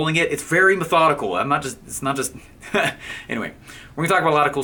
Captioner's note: laughing